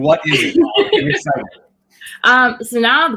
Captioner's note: laughing